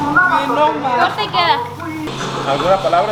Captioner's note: people being sarcastic